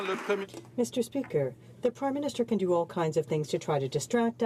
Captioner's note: some Applause